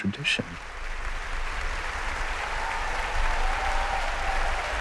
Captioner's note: applause